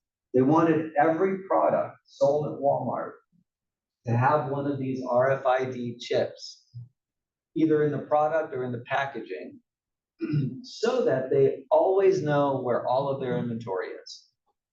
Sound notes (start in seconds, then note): 10.2 cough